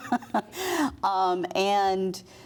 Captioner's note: laughter